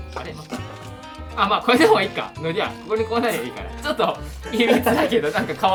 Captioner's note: laughs